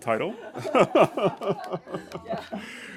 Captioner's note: everybody laughs